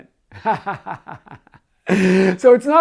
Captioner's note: laughing